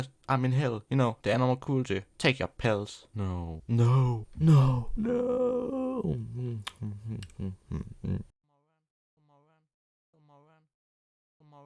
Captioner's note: pill eating noises